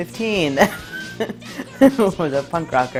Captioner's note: laughs